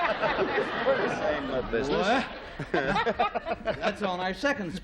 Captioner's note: chattering